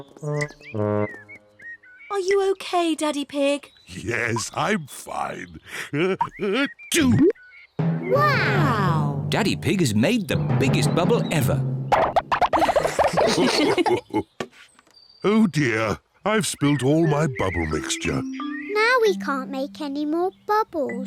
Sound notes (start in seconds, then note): 5.9 sneezes; 12.4 all laugh